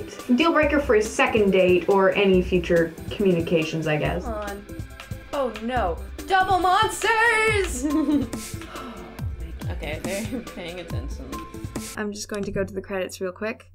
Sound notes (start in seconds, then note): 8.6 sigh; 11.8 theme music ends